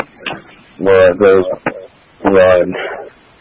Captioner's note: radio traffic